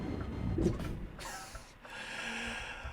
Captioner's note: wheeze